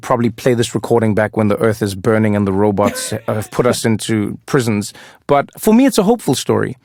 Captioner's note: laugh